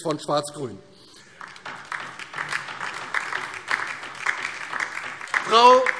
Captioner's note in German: Beifall DIE LINKE